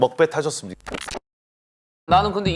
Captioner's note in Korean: 긁히는 소리